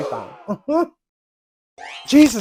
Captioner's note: embarassed chuckle